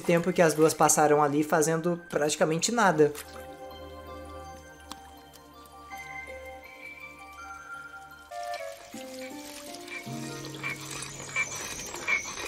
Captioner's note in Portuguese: estalo de dedo